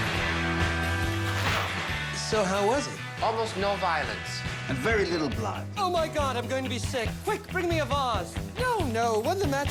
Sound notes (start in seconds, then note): 1.1 zipping